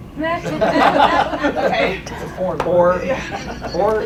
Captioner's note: laughing